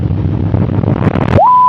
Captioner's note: intense rumbling causes signal to cut off; intense rumbling?